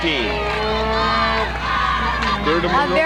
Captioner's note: cheering